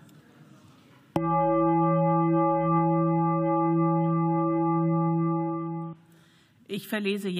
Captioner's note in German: Gong